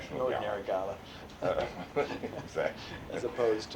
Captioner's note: laughter